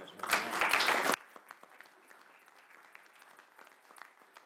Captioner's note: clapping